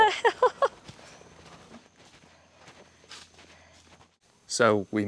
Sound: footsteps

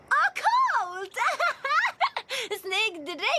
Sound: laughs

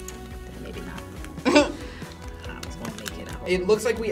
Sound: laughs

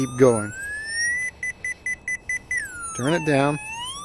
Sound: beeping tone

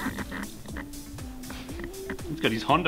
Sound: snickers

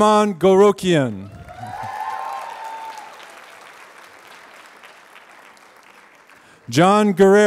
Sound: applause

